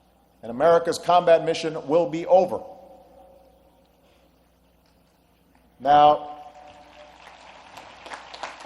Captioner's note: applause